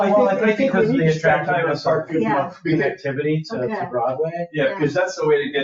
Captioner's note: people chattering